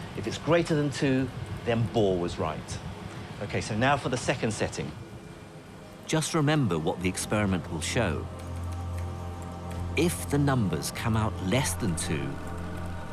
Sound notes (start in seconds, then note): 6.2 voiceover